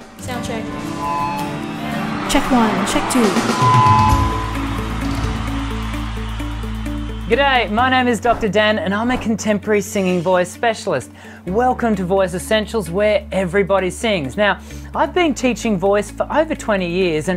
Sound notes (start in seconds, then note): 1.5 upbeat music; 5.5 audience cheers